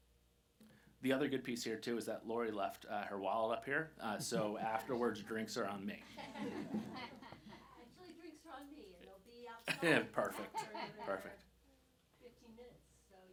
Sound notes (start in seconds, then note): 6.0 audience laughing